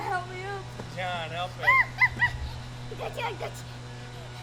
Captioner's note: yipping